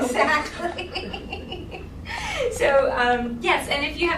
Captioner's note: laughing